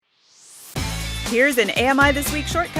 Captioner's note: swoosh